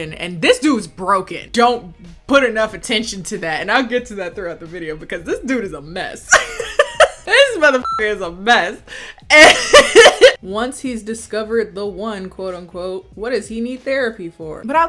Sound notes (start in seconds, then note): 6.3 laughing; 7.8 beep; 9.3 laughing